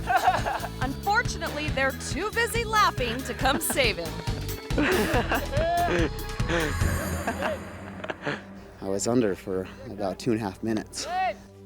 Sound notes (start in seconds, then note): 0.0 friend laughs; 4.3 friends laughing; 6.9 friend laughs; 11.4 friend yells